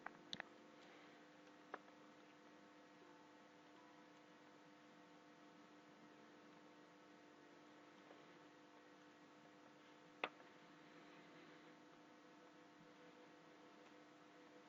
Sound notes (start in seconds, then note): none